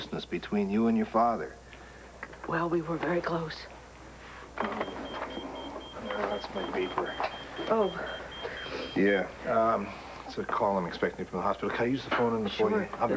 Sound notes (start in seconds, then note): 4.6 pager beeps